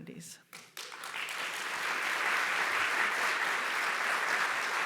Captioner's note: audience applauding